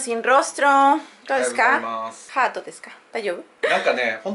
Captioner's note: speaking Japanese